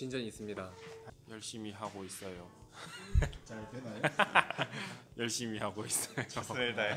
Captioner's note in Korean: 웃음